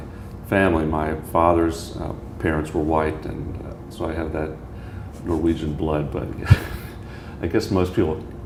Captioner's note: chuckle